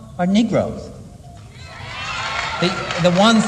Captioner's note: scattered applause